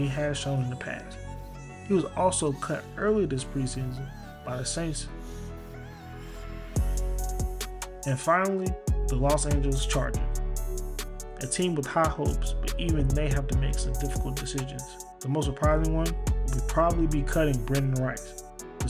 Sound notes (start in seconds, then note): 8.7 voiceover